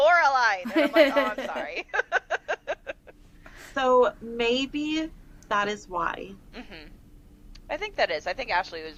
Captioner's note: laughter